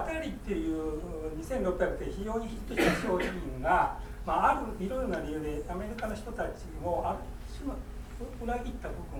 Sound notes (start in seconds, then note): 2.7 coughing